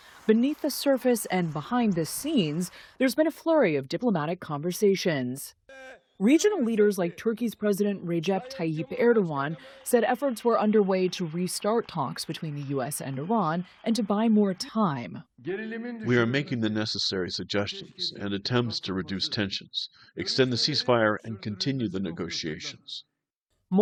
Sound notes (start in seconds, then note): 16.2 through translator